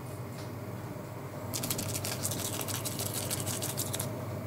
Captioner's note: crackling sound